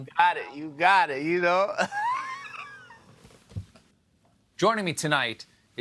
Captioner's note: laughter